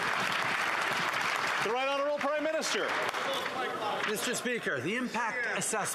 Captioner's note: some Applause